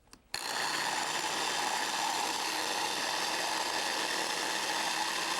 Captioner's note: food processor spinning